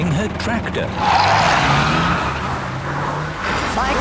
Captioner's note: tires screeching